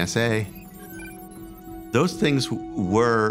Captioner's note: computers chirping